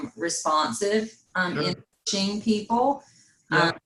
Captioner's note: faintly speaking